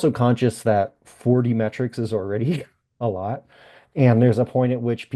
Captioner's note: laughs